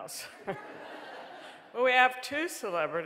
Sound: audience laughing

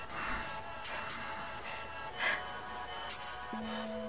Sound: Dolly sobbing

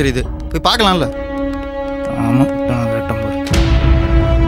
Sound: murmuring

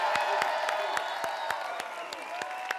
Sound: applause

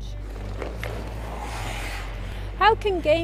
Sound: skidding on ice

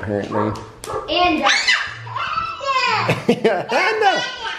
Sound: baby squealing; laughing

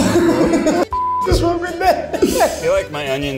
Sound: laughing; beep

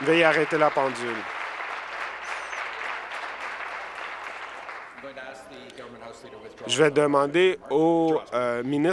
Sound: applause

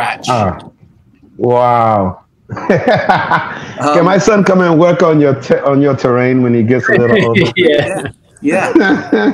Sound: laughs

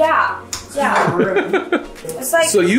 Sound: giggling

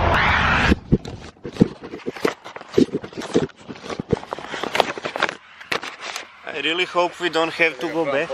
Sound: searching sounds

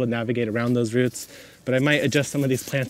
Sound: plastic scrapes

